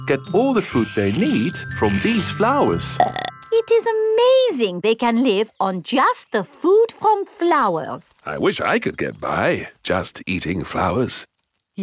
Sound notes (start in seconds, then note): 2.9 burps